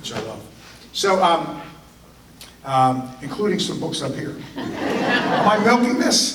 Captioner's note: audience laughter